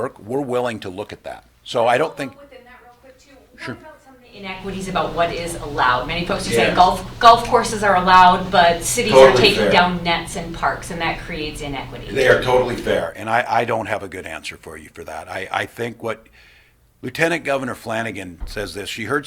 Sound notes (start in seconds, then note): 9.5 off mic